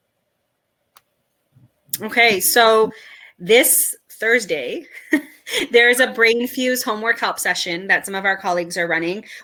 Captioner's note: chuckle